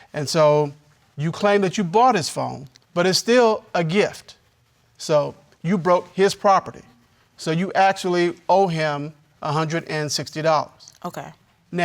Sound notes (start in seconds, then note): none